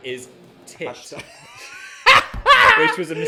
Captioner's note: laughs